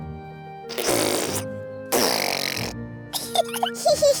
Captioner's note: sputtering; both giggling